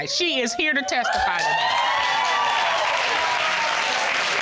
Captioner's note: audience cheering